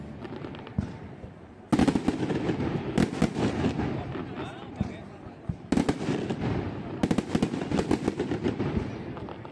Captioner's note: fireworks display